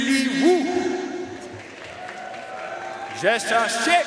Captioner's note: audience cheering and applauding